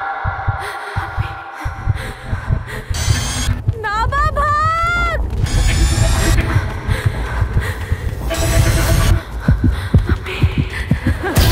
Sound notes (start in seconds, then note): 6.4 Gasping; 6.7 Heartbeat